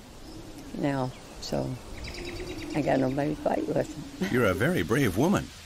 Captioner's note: laughs